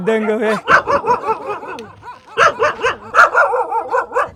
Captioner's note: and the barking continues!